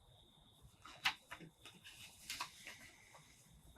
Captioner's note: Gilbert: deep breath; paper crinkling